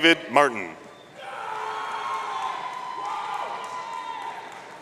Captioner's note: audience cheering